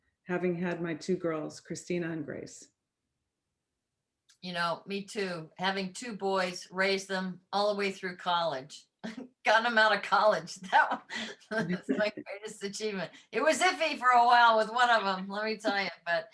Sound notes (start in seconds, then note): 11.0 laughs